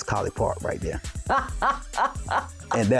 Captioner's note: laughing